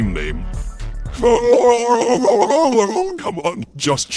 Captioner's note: indistinct chatter